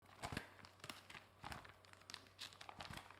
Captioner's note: paper rustling